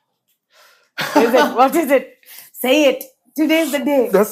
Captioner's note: laughs